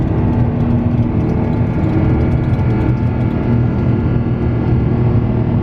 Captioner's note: engine whine increases further